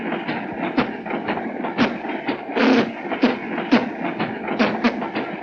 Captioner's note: mimicking a musical instrument